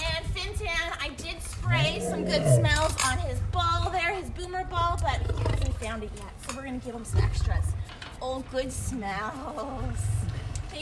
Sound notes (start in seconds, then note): 1.6 lion growl